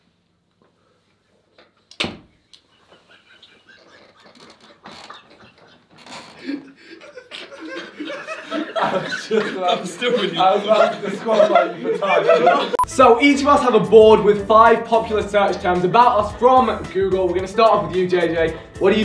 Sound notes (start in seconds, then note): 1.9 door opening; 4.2 floorboards creaking; 8.9 muffled laughing